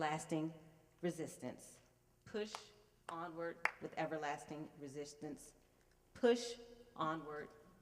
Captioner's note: applause